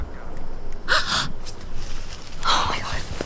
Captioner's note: Jessie gasps